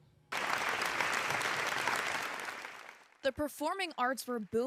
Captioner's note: crowd applauding